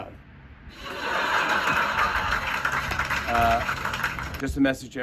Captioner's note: laughter and applause